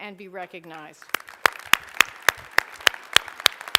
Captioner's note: applause